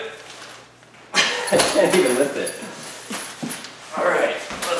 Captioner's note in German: Lachen